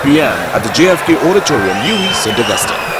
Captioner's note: wild applause and cheering for 22 seconds